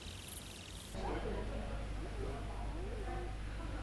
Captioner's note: echoed chatter